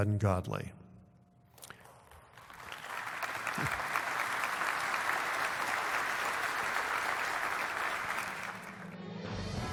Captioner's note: applause